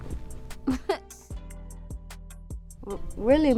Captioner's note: laughs